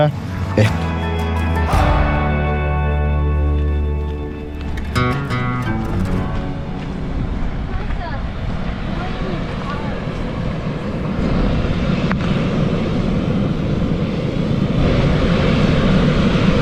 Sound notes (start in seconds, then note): 3.1 sound of the earth, thermal geological activity